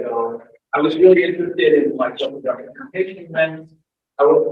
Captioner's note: audio breaks